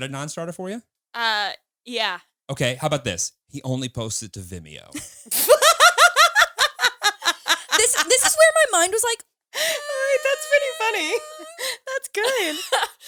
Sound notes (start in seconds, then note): 5.0 all laughing; 9.6 laughs